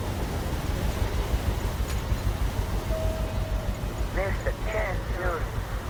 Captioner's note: wind